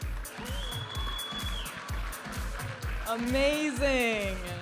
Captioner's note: audience applauding and cheering